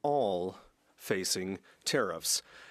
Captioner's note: speaking French